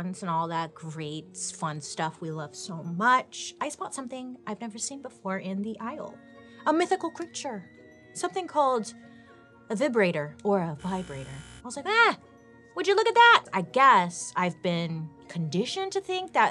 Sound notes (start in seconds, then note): 10.8 vibrator buzzing